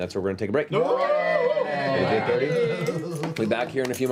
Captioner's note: cheering